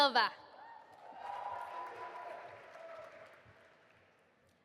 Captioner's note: audience applauding